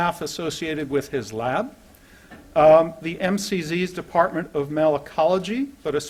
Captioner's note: none